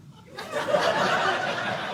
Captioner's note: audience laughing